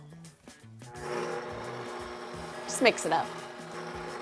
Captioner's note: machine whirs